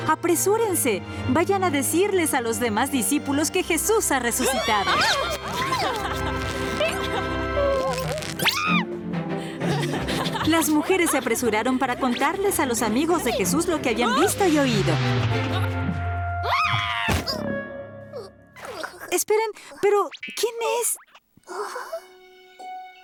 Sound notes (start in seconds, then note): 4.3 shrieks; 8.4 screams; 14.0 shouts; 16.4 shrieks; 17.1 thud